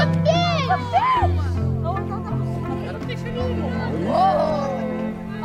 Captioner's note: excited chatter